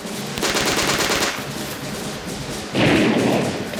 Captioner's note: gunfire rattling